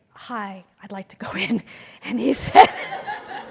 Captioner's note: laugh